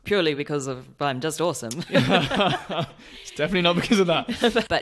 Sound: laughs

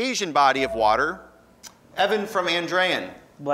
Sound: ding

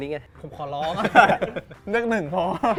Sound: laughs

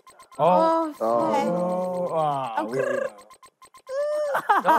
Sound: contestants groaning; laughing

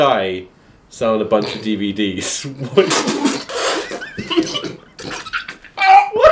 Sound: spitting water

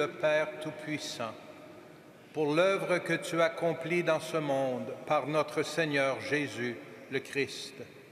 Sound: speaking French

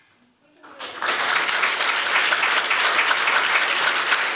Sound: applause

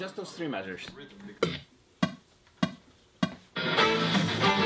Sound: click beating

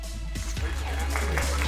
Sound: applause

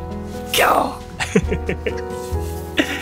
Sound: lion roar in Japanese

